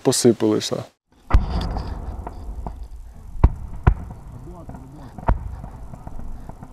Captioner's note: incoming artillery explosion sounds